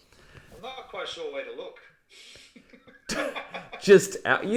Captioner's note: laughs; chuckles